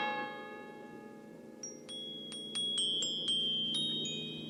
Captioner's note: chimes